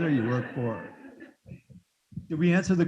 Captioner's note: students laughing